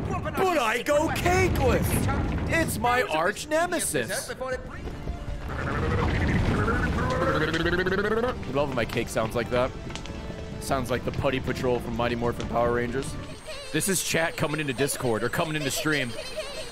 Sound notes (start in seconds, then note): 4.8 cake noises; 6.0 motorboat noises